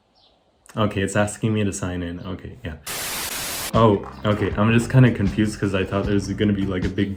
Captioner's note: static buzz